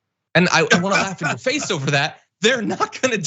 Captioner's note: laugh